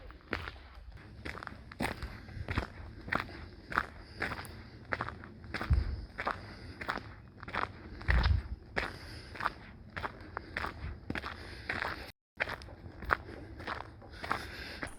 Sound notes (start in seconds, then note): 2.1 footsteps on gravel